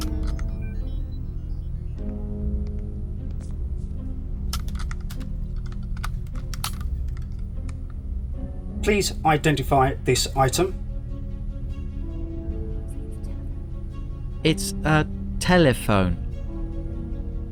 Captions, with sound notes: Please identify this item. (PHILLIPS WHISPERS) - It's a... telephone.